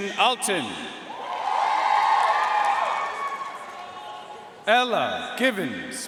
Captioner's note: audience cheering and applauding